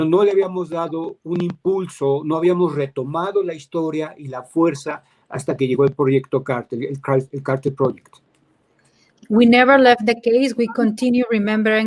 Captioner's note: speaking in Spanish